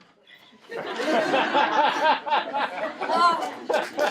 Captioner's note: laughing